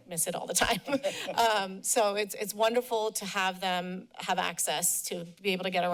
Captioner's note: laughter